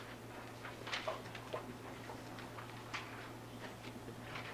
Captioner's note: paper rustling